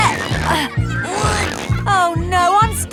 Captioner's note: grunting